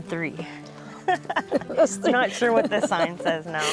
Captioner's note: laughing